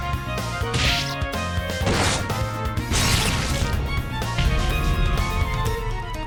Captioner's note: crunch